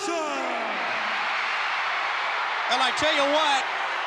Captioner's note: audience cheering